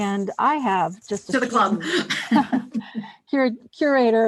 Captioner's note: both laugh